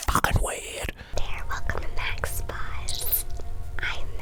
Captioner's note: whispering